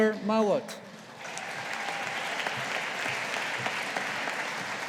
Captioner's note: audience applauding